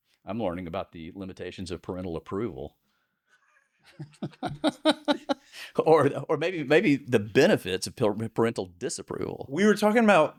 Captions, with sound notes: I'm learning about the limitations of parental approval. (laughing) Or maybe the benefits of parental disapproval. We were talking about,